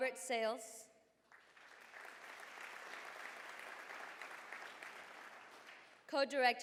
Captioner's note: applause